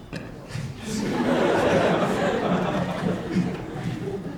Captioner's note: audience laughing